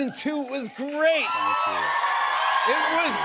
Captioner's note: cheers and applause